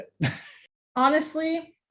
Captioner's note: laughs